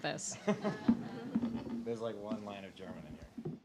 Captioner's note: laughing